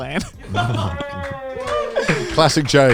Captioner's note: clapping